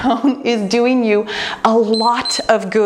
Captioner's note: timer beeps